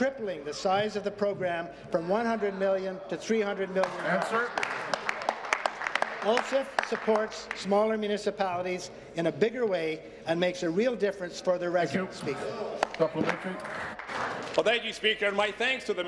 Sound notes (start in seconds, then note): 8.2 applause